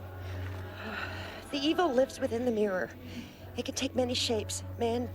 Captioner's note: sighs